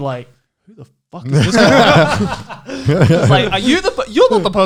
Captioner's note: guys laughing